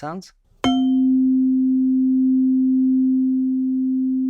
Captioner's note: chime